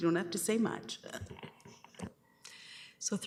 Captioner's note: chuckling